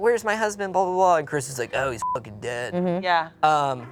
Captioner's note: beep